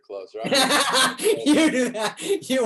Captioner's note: David laughs